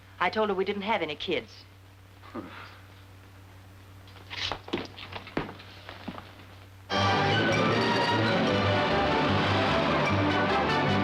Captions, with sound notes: I told her we didn't have any kids. [chuckles] [instrumental music]